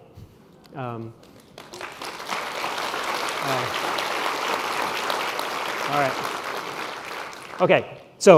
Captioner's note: applause